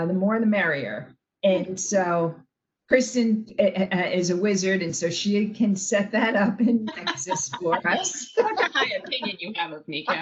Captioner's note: laughing